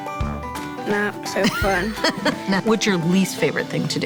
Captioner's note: laughing